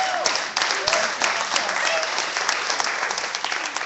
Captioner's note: clapping